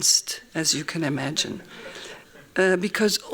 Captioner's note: laughing